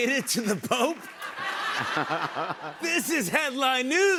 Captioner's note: laughter